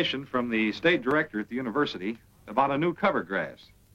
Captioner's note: none